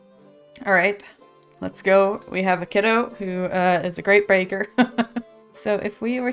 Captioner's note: laughs